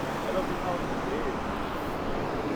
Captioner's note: indistinct chatter